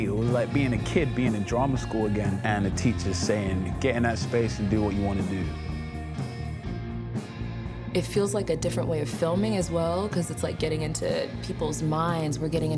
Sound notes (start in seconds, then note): none